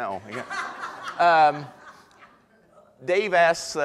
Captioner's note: audience laughter